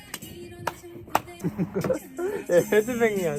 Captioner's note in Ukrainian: Вмирає зі сміху